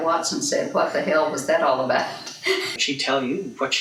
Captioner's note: laughs